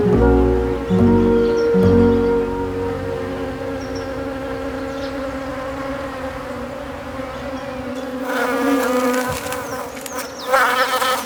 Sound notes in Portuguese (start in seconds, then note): 8.2 Zumbido de abelha